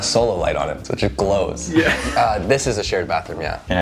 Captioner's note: chuckles